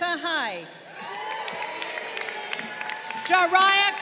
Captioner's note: crowd cheering